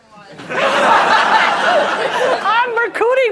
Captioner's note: laughter